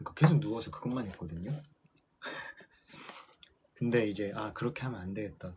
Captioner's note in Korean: 웃음